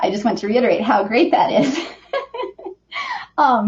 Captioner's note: laughs